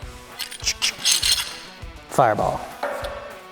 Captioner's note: tools rattling